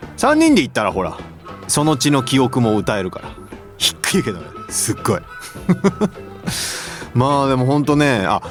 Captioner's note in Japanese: 笑い